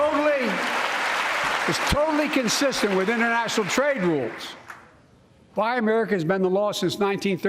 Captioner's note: applause